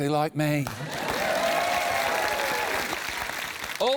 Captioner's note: cheering, applause